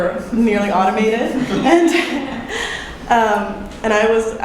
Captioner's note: chuckles